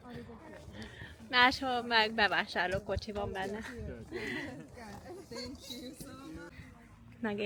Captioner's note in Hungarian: nevetés